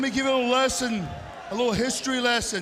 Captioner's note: crowd cheering